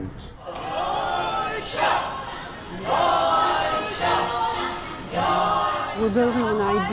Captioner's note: people chanting in a foreign language